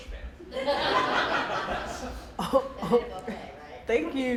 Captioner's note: laughing